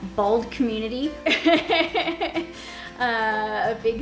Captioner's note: laughs